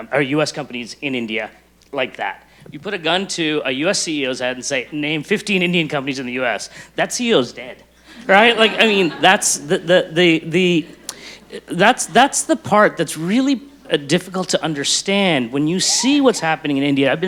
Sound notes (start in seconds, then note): 2.0 snaps fingers; 8.1 audience laughs